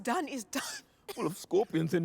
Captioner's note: coughs